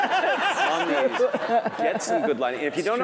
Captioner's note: laugh